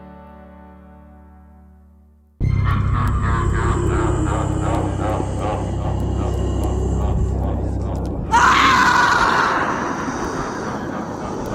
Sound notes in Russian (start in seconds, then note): 3.7 стон